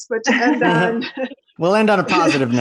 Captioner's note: all laughing